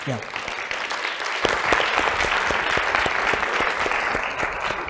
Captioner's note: applause